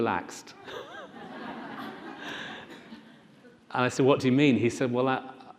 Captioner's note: laughing